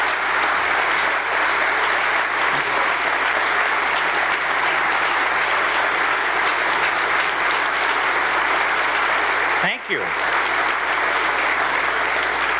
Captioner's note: applause